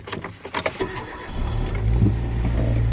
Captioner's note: car key flipped opened and put in the engine; engine turned on